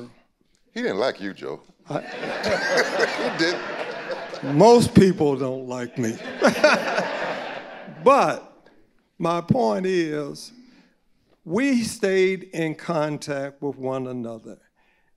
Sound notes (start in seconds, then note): 1.9 audience laughing; 6.8 laughing